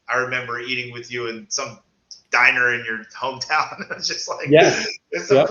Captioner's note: laughs